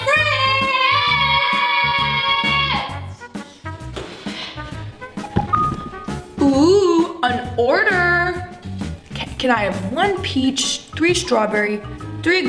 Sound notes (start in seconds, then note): 5.3 ding